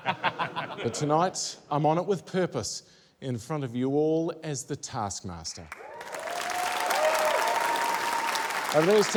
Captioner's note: laughter; cheering, applause